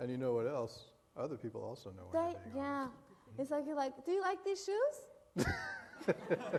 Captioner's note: laughter